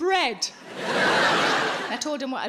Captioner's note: crowd laughing